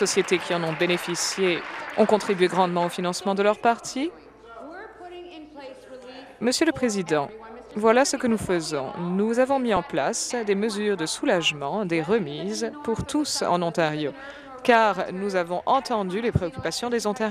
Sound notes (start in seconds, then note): 3.9 applause